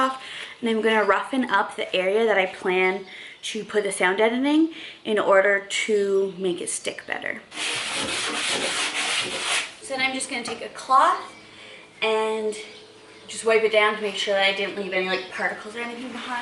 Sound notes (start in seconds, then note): 7.0 construction sounds